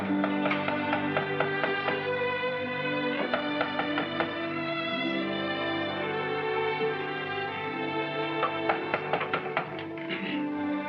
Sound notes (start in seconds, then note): 0.2 upbeat music; 3.1 door knocks; 8.4 door knocks